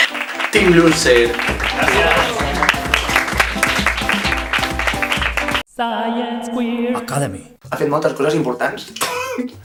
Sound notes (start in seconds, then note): 2.5 applause